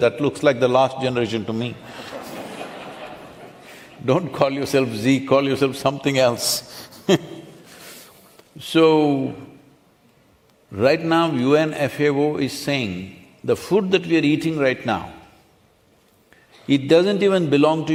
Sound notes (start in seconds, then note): 1.8 laughter; 8.0 laughs